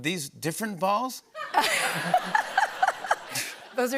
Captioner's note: laughter